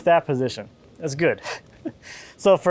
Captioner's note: laughing